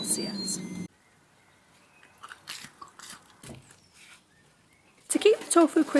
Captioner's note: crunching noises